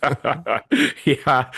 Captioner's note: both Laughing